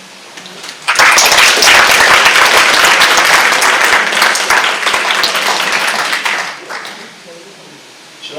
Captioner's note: clapping